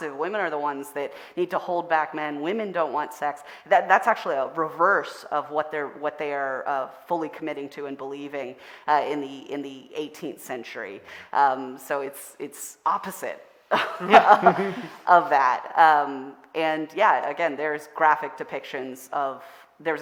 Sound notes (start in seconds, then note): 13.7 all laughing